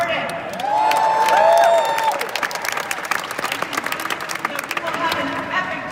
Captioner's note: applause